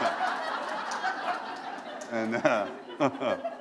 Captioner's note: laughter